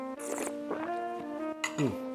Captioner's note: slurps